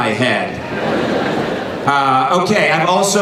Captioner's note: laughing